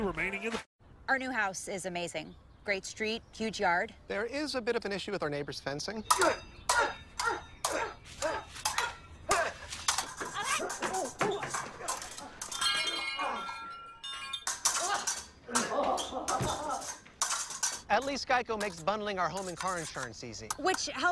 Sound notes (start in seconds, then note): 15.4 laughing